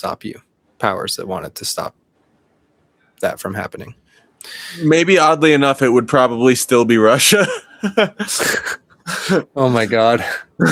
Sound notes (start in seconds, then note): 7.3 laughing